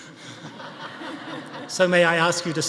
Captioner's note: audience laughing